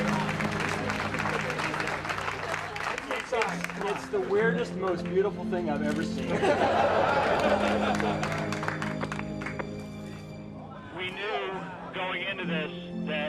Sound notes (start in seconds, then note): 0.0 crowd; 3.1 crowd cheering; 10.7 crowd laughing